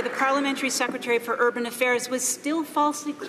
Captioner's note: some Applause